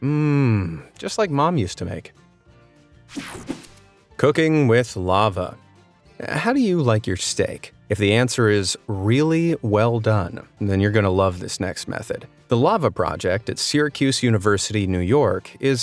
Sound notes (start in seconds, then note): 2.3 light, upbeat music; 3.1 graphics whoosh